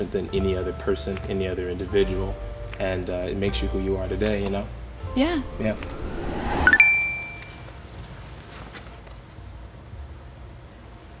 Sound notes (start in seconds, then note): 6.6 chime